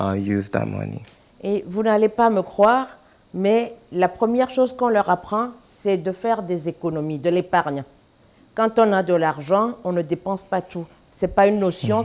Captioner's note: speaking french